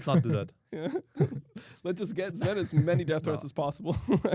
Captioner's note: laughs